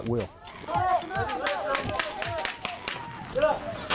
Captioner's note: officers yelling